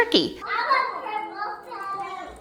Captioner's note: children talking